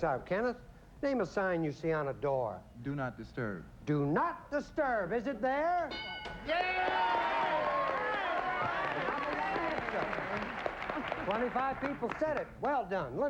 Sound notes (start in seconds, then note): 6.4 overlapping chatter